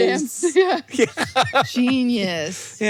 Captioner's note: laughs